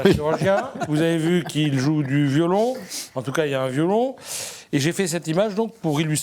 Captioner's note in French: grognement